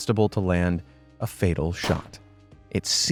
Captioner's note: gun firing